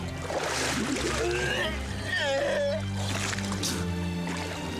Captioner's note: retching and spitting